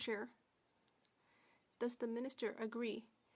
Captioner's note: speaking French